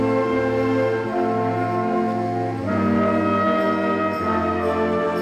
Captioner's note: none